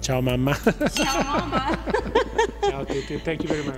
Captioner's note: laughs